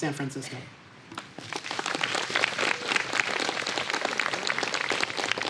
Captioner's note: applause